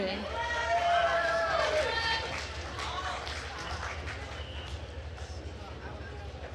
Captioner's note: attendees cheering and applauding